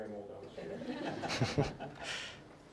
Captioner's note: all laughing